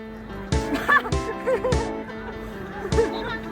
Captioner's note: me laughing